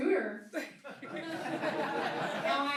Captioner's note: laughing